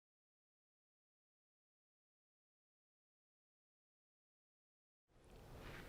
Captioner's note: silence